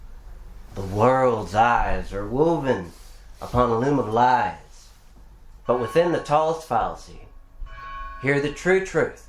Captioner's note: church bell